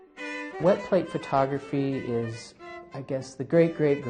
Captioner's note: voiceover